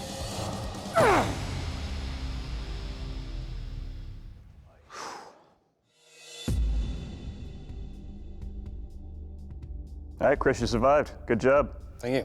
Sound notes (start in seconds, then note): 4.8 exhales sharply